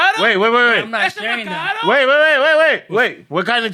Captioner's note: speaking Spanish